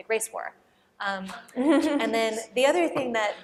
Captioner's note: laughter